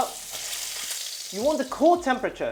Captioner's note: sizzling sound